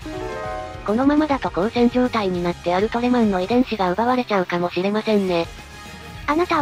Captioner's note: suggestively